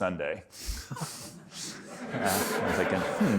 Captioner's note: audience laughing